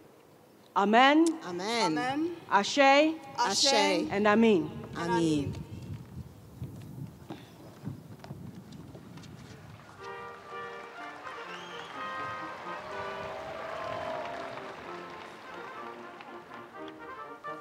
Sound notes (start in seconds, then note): 9.8 audience cheering; 10.0 upbeat collegiate music; 10.2 audience applauding